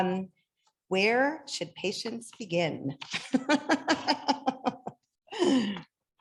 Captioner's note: laughs